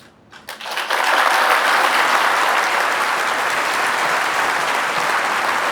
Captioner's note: applause